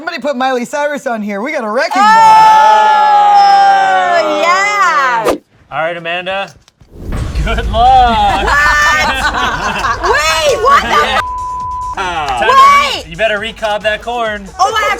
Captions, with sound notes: - Somebody put Miley Cyrus on here. We got a wrecking ball. - Oh! Yeah. (air whooshing) - All right, Amanda. Good luck. - What? Wait, what the (beep)? - Wait! - You better recob that corn.